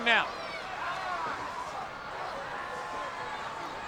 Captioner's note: crowd yelling